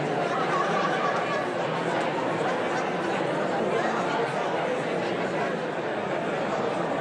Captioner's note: audience continues indistinctly chattering